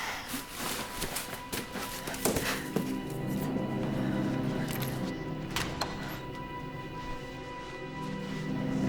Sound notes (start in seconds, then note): 5.6 door latch clicks